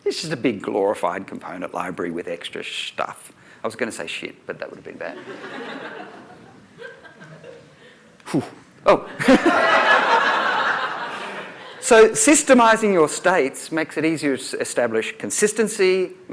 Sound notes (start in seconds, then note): 5.1 laughter